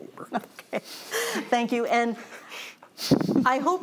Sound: laughs

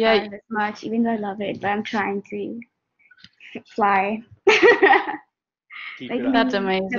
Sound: laughs

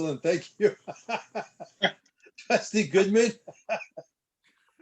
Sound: laughter

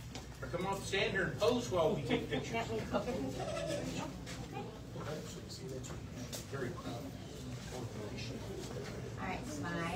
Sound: indistinct chatter

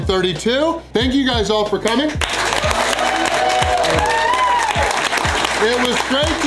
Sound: crowd clapping

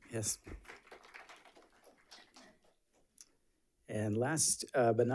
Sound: audience applauds

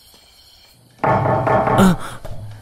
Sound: pounding on door

